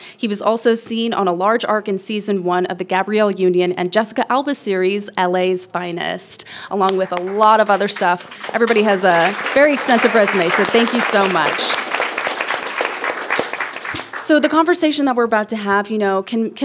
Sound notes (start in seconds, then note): 10.9 people applauding